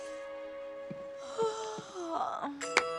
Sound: yawning

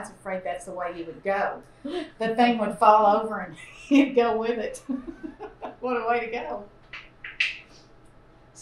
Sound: laughter

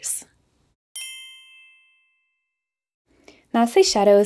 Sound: bell chimes

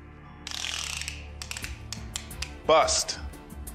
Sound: tape measurer clicks

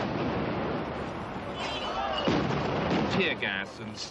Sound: explosions

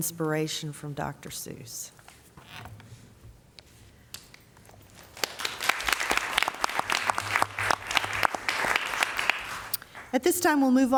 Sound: applause

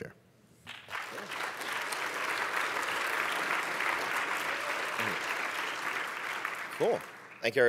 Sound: applause

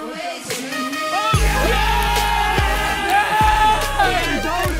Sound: players cheer

